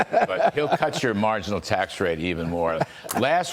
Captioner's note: laughter